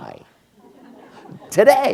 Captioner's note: laughter